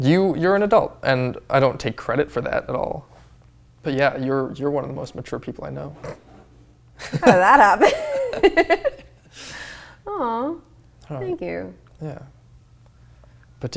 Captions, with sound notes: - You're an adult, and I don't take credit for that at all. But yeah, you're one of the most mature people I know. (laughing) - How'd that happen?! (laughing) Thank you. - Yeah.